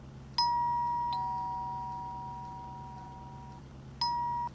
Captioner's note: door bell